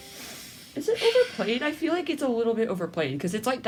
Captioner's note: inhales through her teeth; sigh